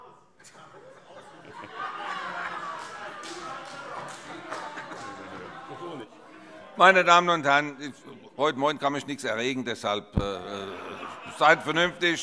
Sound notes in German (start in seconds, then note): 10.4 Heiterkeit